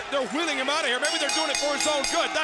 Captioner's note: bell dings